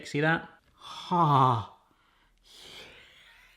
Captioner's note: sighing